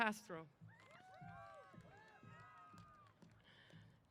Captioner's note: applause & Cheers